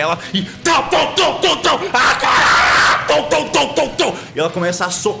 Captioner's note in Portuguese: grunhidos